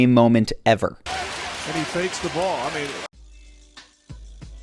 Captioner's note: audience cheering